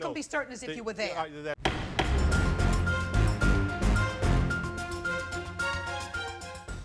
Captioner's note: gavel bangs; intense music